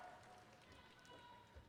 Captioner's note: applause